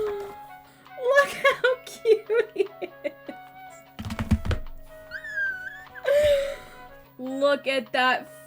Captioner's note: excited squeal